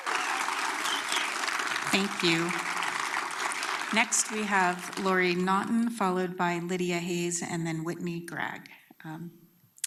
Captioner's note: applause